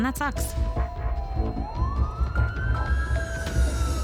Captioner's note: siren wailing